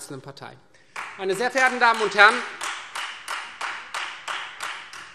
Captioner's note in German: Beifall Freie Demokraten